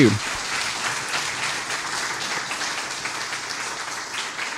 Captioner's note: applause